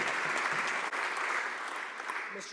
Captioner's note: some Applause